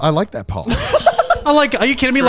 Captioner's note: laughs